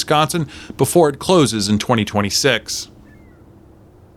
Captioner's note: static buzzing